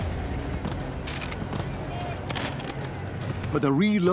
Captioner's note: soldiers shout